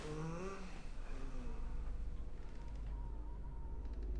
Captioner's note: Paul moans; hinges creaking